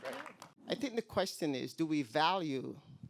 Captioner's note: voiceover